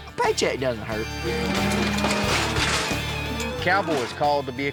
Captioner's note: cows moo